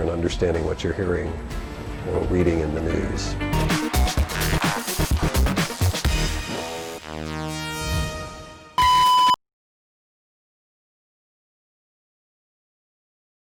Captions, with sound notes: and understanding what you're hearing or reading in the news. (upbeat music) (beeping)